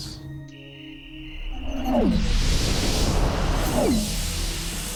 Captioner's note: whooshing